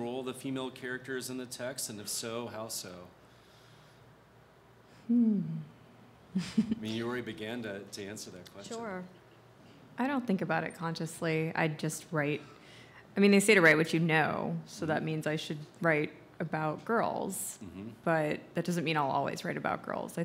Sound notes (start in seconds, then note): 6.4 laughs